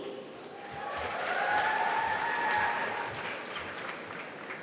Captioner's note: applause